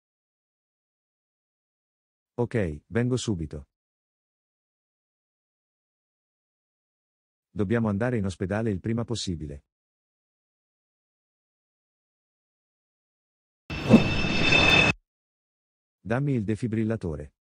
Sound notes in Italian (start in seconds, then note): 13.7 Ambience - Jet Flyby; 13.7 FX - Whoosh - 03